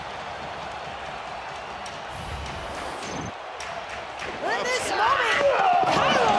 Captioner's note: audience cheering